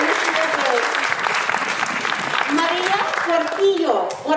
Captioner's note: audience applauding; speaking in foreign language